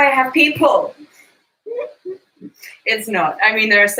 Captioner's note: laughs